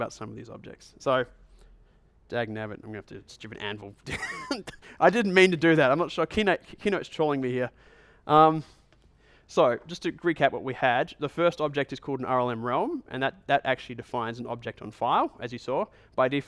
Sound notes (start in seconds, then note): 4.1 chuckles